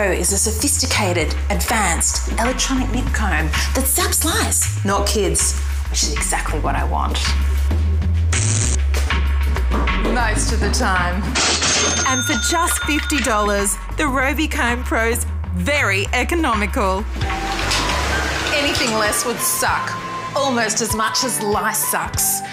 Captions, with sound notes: is a sophisticated, advanced electronic nit comb that zaps lice - not kids, which is exactly what I want... (Zap) ..most of the time. And for just $50, the Robi Comb Pro's very economical. Anything less would suck almost as much as LiceSuks.